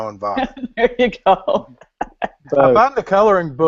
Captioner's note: laughs